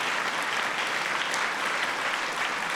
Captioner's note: applause